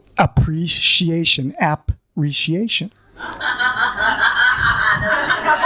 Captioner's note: laughing